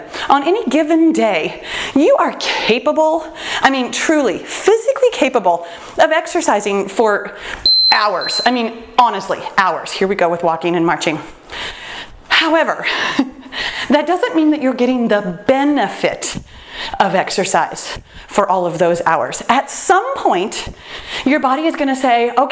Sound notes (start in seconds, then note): 7.6 timer beeps; 12.7 chuckles